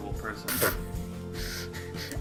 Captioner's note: projectile raspberry; inhales